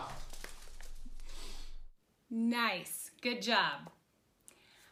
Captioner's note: loud snapping